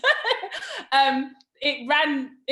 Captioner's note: laughs